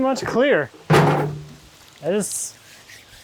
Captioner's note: bucket clanging; water splashing